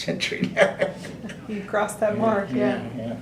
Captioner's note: laughs